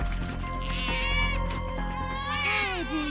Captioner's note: baby cries